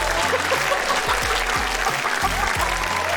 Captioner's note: laughs